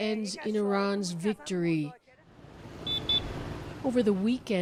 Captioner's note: speaking Alternate Language